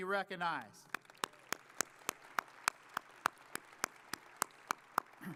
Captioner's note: audience applauding